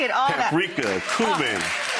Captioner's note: crowd cheering